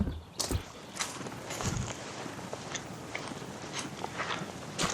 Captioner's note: footsteps